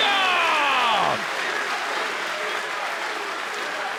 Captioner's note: crowd cheering